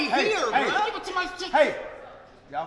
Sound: speaking away from mic

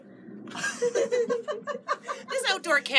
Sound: laughter

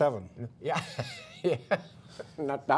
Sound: laughter

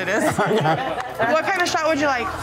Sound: both laughing

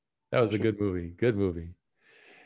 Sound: laughing

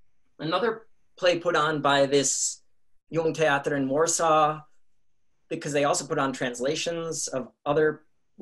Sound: in Polish

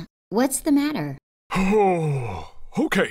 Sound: exhales

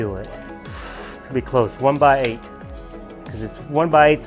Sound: sharp inhale

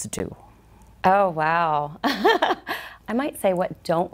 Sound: chuckles

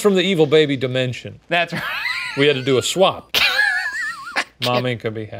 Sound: laughing

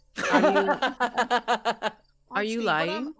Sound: laughing

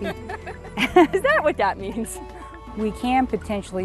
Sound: laughing

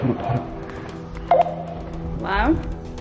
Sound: beep

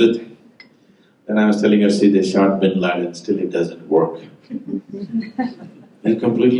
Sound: laughter

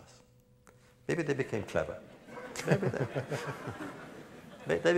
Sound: laughter

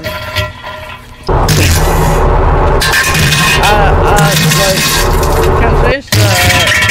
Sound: extreme violent shitting while tries to speak over it

